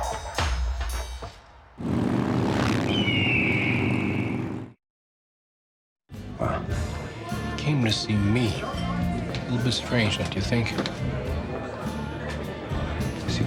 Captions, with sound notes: (motorcycles roaring) (bird shrieks) - What? - Came to see me. A little bit strange, don't you think?